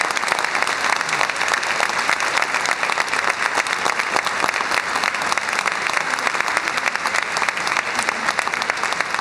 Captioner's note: applause